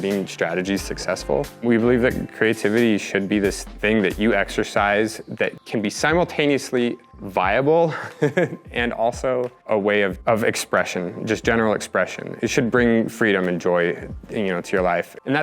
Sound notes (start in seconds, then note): 7.9 laughs